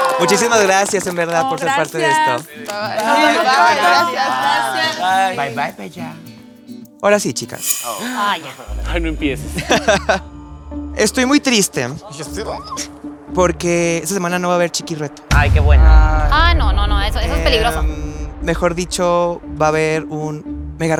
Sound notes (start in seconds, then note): 15.3 collective relief